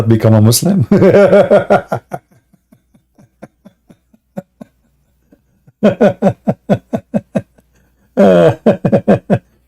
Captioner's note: Ketawa